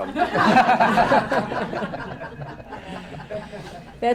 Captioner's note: laughter